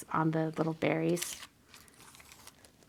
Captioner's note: none